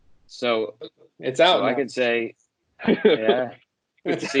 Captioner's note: laughter